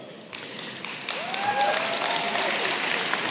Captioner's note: applause